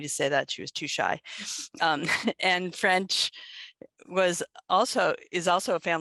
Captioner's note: laughter